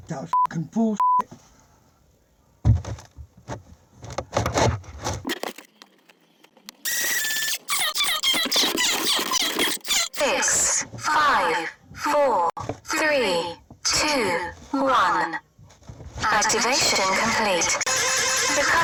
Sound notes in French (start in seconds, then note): 6.9 la pompe grince; 10.7 Voix robotique